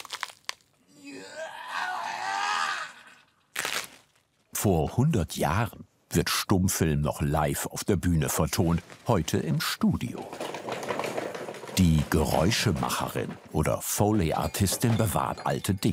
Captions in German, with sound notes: (Schmerzerfülltes Winseln) (Knacken) Vor 100 Jahren wird Stummfilm noch live auf der Bühne vertont. Heute im Studio. Die Geräuschemacherin oder Foley-Artistin bewahrt alte Dinge ...